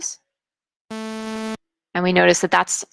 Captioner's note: sharp beep